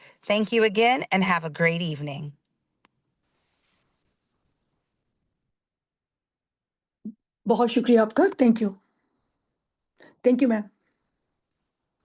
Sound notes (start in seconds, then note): 7.7 speaking in foreign language